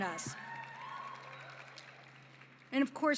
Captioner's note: cheering and applause